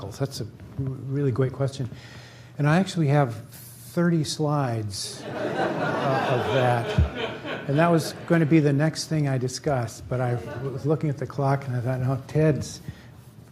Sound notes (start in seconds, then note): 5.1 laughter